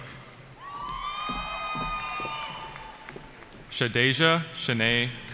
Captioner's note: cheering